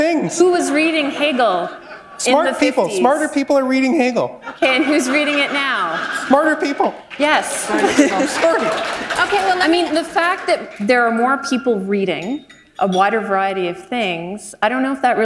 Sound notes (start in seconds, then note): 7.0 applause